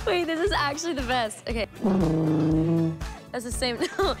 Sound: warbling

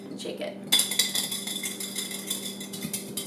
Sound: sound of egg rattling in glass jar

